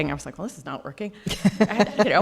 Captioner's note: laughing